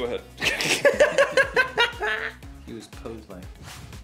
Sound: laughter

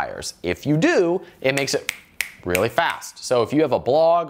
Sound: snaps fingers

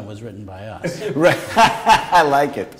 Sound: laughter

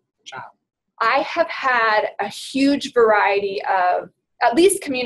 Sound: voiceover

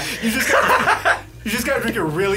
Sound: laughing

